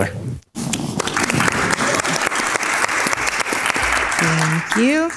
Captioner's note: crowd claps and cheers